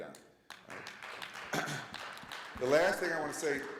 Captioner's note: audience clapping